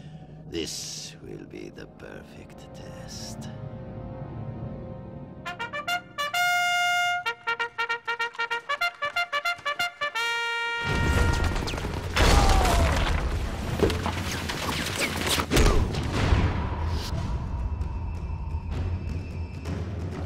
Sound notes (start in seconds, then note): 5.4 playing bugle; 10.8 crashing